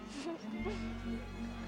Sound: giggles

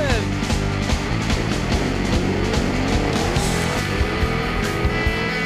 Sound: engine sound

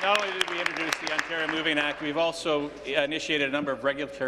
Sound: applause

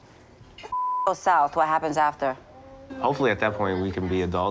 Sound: beep

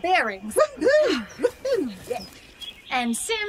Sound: FOOTSTEPS as Dusty and Sol walk off

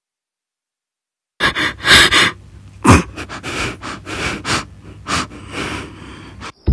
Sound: weeping

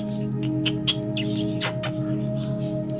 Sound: kissing sounds

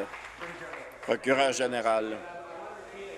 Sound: applause

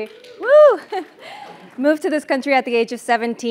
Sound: laugh

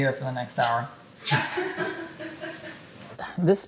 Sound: woman laughing

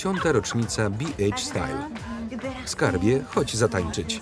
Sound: speaking foreign language

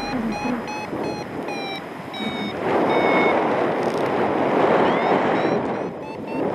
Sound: alarm accelerates; alarm slows; strong wind gusts

